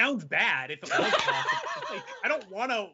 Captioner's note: laughing